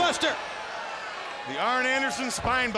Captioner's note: fans cheering